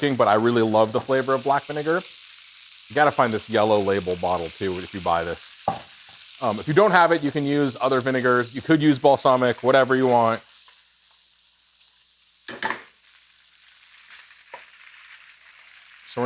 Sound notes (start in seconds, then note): 5.6 bottle thuds; 12.4 wok rattles; 13.9 food sizzling